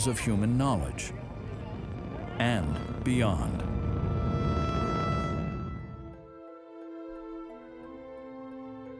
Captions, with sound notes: of human knowledge and beyond. (rocket roaring) (soft music)